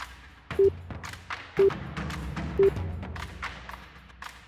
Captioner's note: snappy music; timer beeping; snappy music